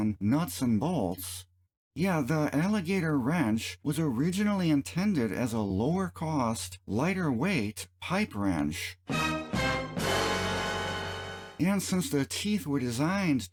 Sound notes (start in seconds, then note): 9.1 dramatic sound effect